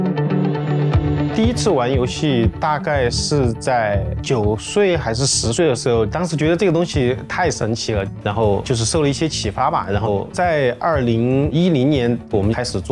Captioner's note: non-english speech